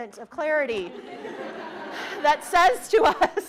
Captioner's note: participants laughing